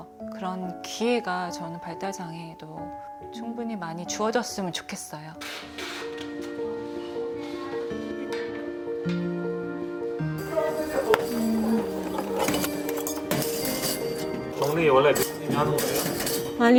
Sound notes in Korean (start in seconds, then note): 11.1 콧노래 흥얼흥얼